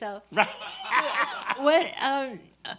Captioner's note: laughs